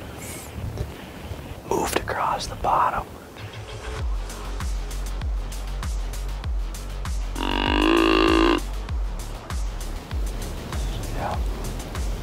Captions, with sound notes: moved across the bottom. (deer call bellows) Yeah.